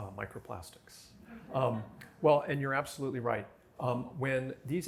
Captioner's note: laughter